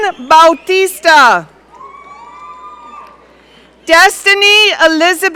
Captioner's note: audience cheering